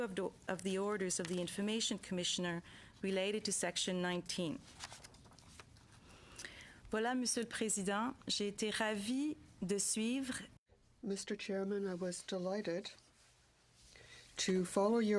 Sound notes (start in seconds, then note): 9.6 speaking French